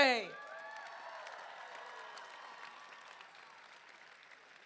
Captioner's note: crowd cheering